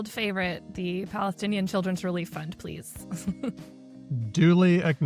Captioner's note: chuckles